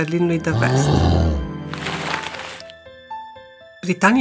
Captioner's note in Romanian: răget de urs; zgomot avioane de hârtie